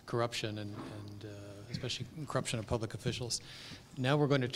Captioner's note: cough